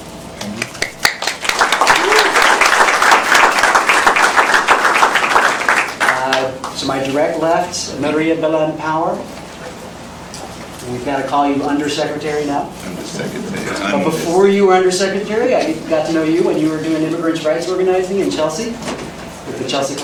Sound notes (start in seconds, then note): 0.6 applause